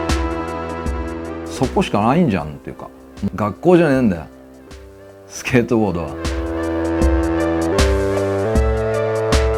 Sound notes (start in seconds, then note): 1.6 speaking in foreign language; 6.9 upbeat music